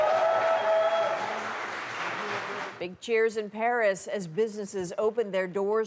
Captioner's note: cheers and Applause